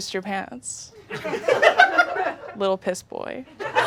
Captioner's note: audience laughing